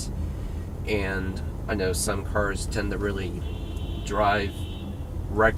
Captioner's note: horns Honking